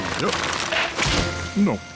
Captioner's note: slap